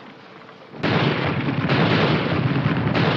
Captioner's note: artillery fire